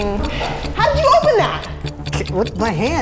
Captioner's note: clock ticking